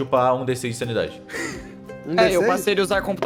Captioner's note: the wheeze